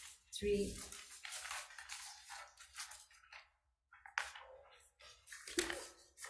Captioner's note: paper shuffling